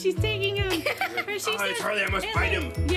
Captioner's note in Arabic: يضحك